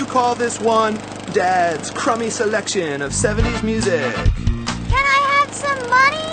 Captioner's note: mocking